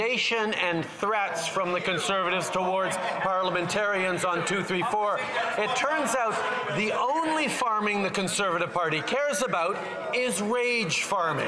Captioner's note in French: voix de l'interprète